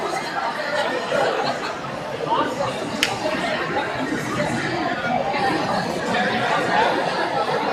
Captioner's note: crowd chattering